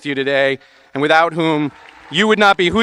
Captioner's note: audience applauding and cheering